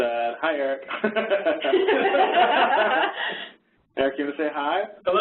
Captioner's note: laughing